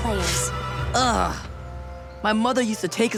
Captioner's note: groaning